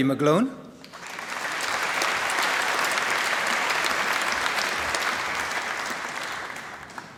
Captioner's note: applause